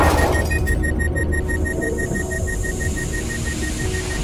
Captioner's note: system beeping